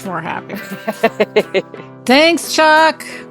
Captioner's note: laughing